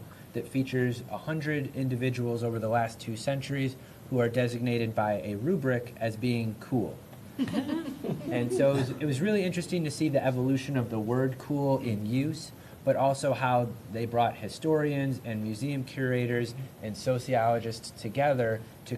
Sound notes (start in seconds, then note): 7.3 laughter